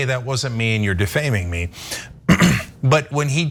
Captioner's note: cough